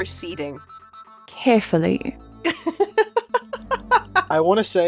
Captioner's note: giggles